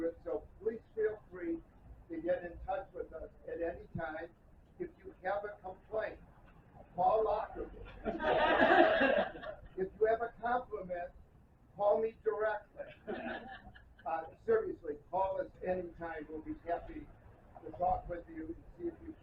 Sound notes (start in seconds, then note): 7.9 laughter; 12.8 scattered laughter